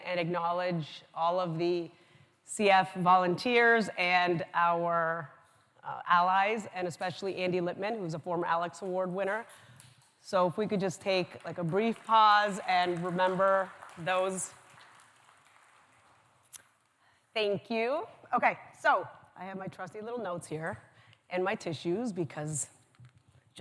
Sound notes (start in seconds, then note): 14.7 applause